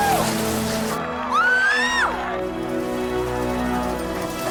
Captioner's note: Tracy squeals